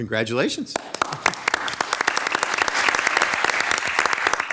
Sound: people clapping

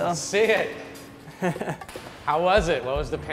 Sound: laughs

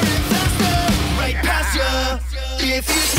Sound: laughter

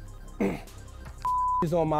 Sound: clears throat

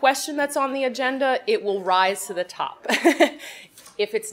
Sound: laughs

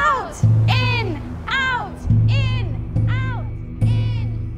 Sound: thunder fades away

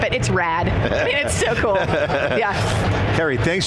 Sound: laughs

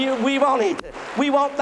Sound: claps hands

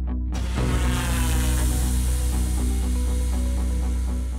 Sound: drone buzzes

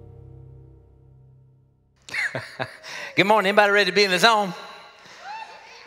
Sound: laughs

